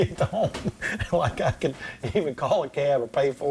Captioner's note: laughs